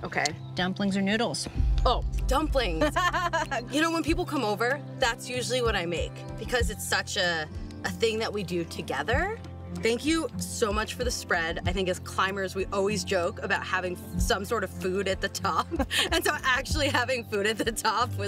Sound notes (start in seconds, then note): 2.7 laughing